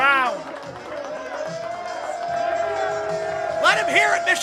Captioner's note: crowd cheering